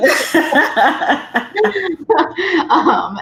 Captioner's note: both laughs